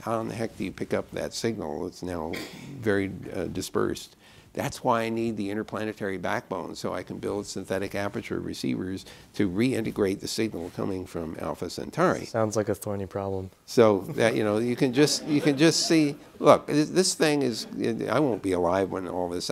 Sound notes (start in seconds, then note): 15.1 laughter